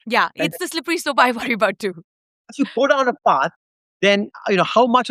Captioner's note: chuckles